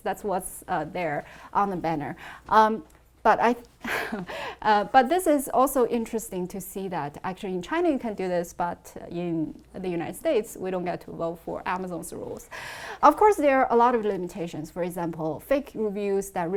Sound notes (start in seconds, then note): 3.7 laughs